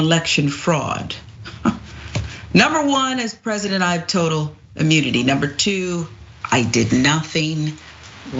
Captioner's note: laugh